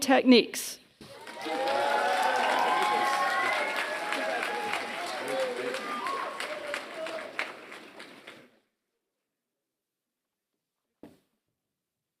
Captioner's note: applause